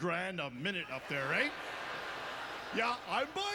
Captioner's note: audience laughter